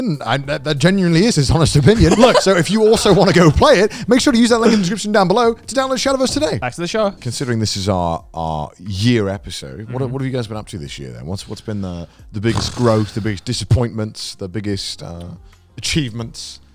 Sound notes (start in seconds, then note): 1.8 laughs; 8.4 soft upbeat music